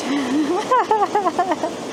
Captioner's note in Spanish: Risas